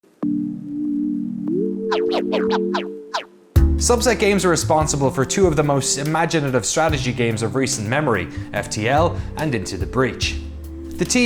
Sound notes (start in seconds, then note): 0.0 record scratch; 0.0 techno music